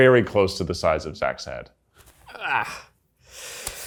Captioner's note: grunts